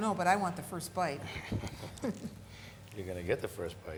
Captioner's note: both chuckling